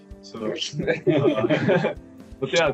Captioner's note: Смех